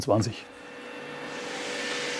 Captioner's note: humming